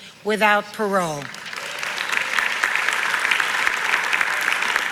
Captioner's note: audience applauds